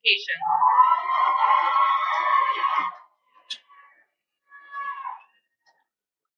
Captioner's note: cheering